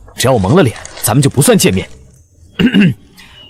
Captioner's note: cough